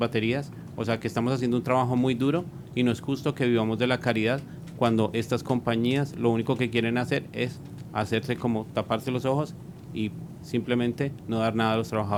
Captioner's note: speaking spanish